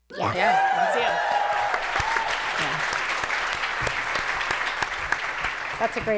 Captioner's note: cheering